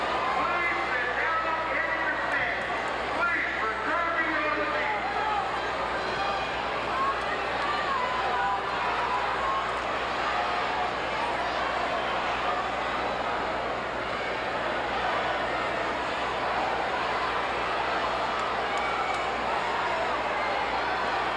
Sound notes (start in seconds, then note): 5.5 audience cheering